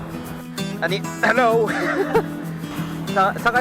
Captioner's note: laughs